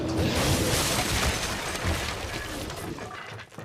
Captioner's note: wood crunching